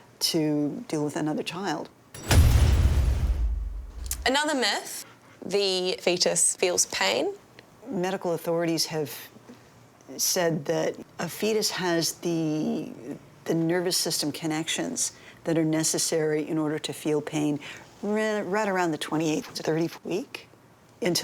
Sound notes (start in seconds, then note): 2.1 metal clanging; 2.1 metal thudding